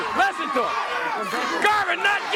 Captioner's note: crowd cheering